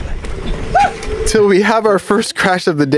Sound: shouts

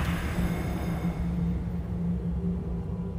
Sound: eerie wind

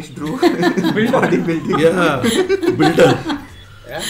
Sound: laughs

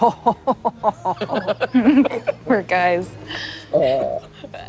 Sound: all laugh

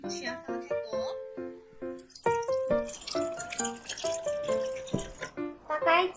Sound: pouring

